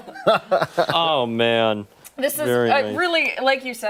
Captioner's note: laughter